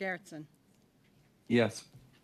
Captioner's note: speaking French